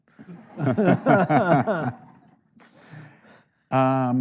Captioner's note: audience laughing